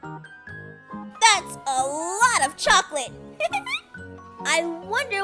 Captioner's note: laughs